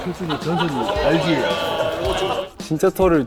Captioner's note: everyone cracks up over a single armpit hair